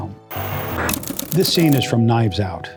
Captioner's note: static